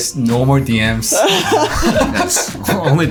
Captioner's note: laughing